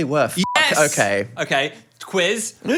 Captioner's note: beep